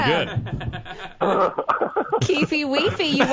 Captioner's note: laughs